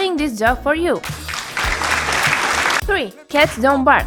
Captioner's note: clapping